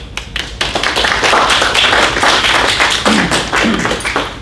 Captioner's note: audience applauds